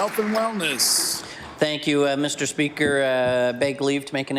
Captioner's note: applause